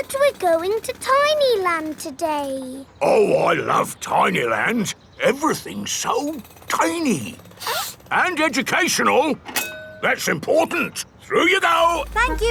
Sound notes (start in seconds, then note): 7.5 sniffs